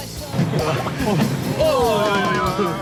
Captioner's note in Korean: 덜컹 덜컹